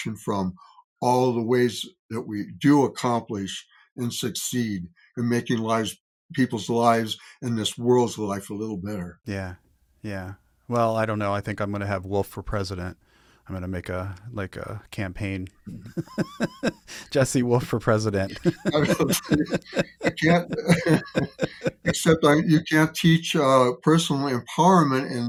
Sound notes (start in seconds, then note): 15.6 laughing; 18.2 both laughing